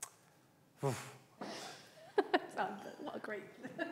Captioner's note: he sighs